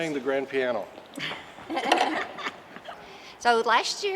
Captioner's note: members laughing